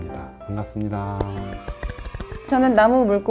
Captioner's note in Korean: 환호 효과음